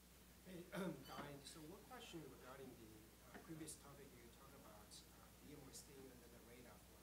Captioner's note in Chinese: 学生在说话